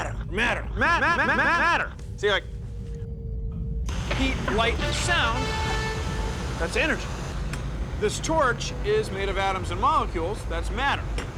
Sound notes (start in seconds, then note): 1.4 <i> echoing</i>